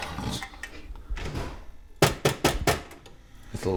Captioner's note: CD player smacks